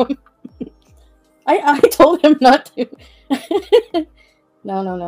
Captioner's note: laughs